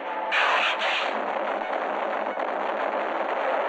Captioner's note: explosion booming